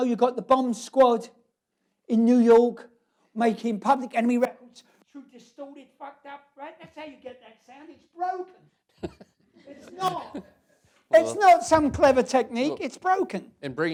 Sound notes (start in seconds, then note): 8.9 laughter; 9.0 laughs